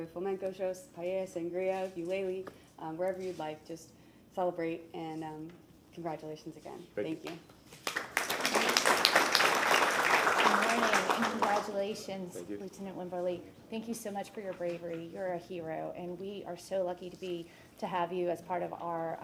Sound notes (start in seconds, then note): 11.4 applause